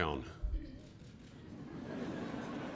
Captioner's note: applause